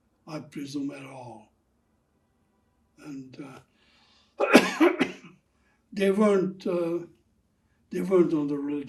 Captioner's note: coughing